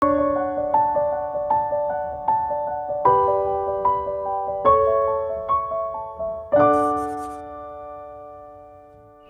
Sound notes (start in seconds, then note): 6.6 pencil scratches